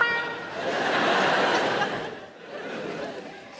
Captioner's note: audience laughing